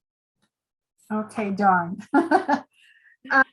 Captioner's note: laughs